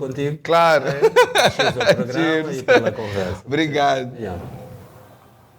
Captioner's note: laughter